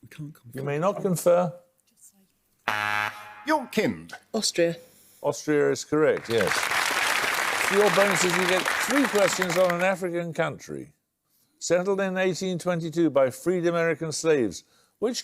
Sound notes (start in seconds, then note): 2.6 buzzer; 6.1 applause